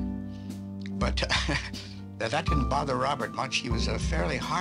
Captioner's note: laughs